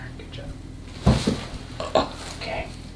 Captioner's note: loud thud; painful grunting